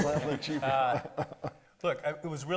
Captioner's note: laughing